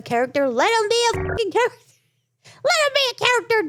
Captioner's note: beep